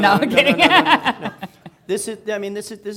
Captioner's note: laughing